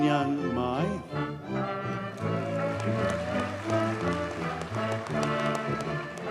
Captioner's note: audience cheers and applauds